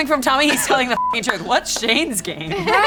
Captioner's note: beep